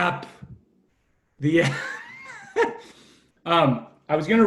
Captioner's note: laughs